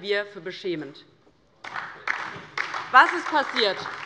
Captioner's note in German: Beifall DIE LINKE und vereinzelt SPD